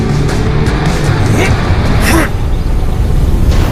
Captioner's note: grunting